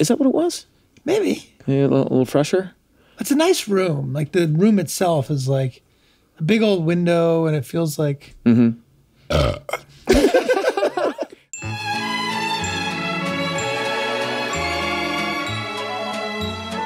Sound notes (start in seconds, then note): 9.2 burps; 10.1 all laugh